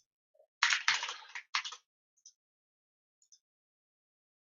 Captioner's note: keyboard keys clanking